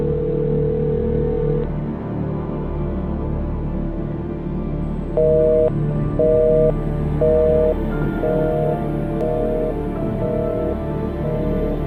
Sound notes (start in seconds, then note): 0.1 dial tone ringing; 0.1 high intensity music; 6.2 dial tone beeping